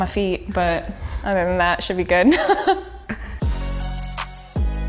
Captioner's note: laughs